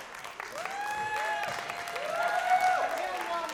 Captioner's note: applause, cheering